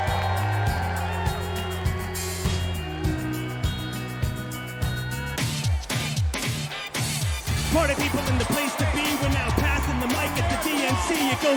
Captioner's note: cheers and applause